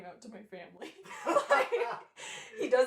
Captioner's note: laughter